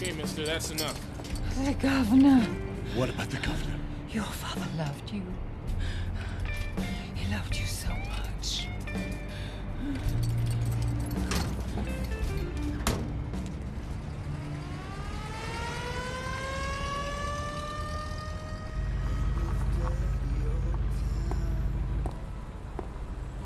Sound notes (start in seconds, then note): 14.9 ambulance siren wailing